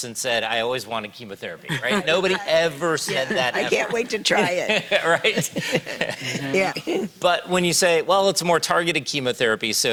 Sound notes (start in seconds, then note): 1.7 speakers laughing; 5.8 laughs